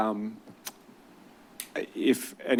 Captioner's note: clicks tongue